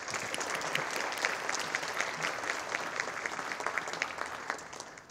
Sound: audience applauding

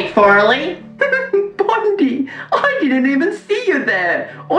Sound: laughs

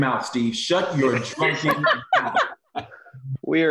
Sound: laughs

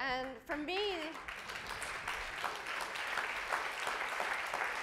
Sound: audience applauds

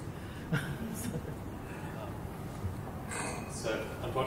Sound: laughter

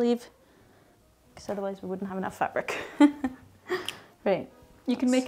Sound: laughs

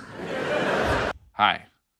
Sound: audience laughs

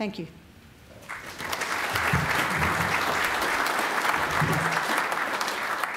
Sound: applause

